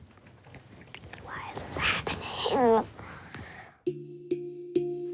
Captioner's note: whispers